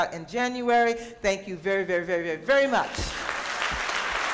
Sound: applause

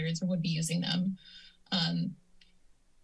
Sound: inhales

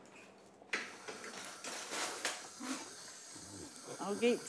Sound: tap hisses

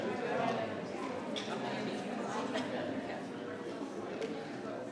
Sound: people continue chattering

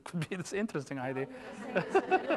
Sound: laughter

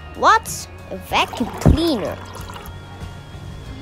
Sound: water sound

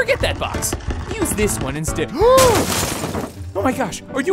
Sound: crashing; gasping

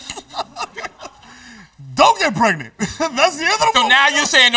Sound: laughs

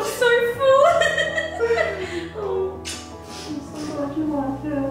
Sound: laughs

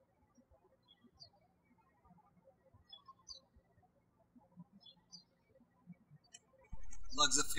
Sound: birds chirping

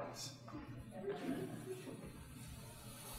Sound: audience chuckling

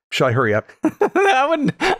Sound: laughter

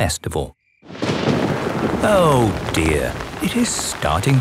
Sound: thunder rumbling

